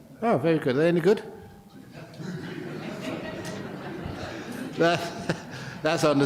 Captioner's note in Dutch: lachen